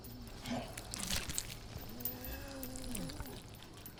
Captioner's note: ear crunching